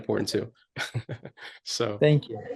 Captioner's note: chuckles